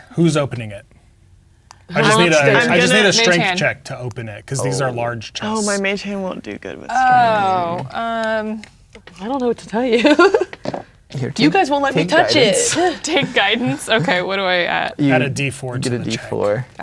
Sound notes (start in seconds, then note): 9.8 laughing